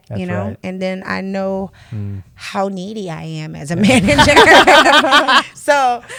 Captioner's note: laughter